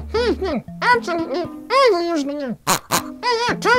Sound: pig oinks twice; pig oinks three times

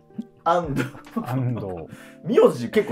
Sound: laughing

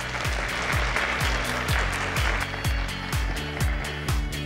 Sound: audience applauding; upbeat music

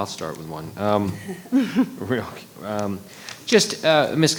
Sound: attendees chuckling

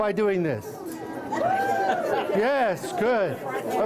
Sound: cheering

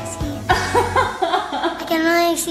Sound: laughing

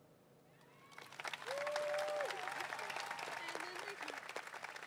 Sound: crowd applauding

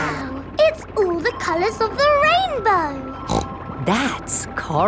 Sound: snorts

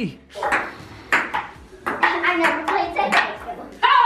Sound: ball clacks

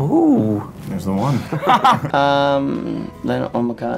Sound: guys laugh

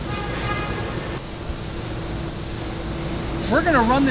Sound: water running

